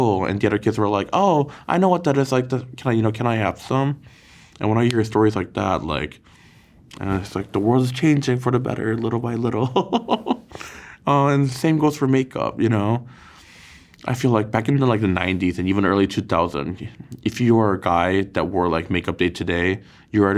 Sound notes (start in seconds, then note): 9.7 laughs